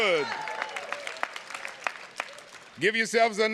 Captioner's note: audience applauding